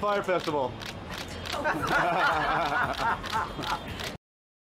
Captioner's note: laughter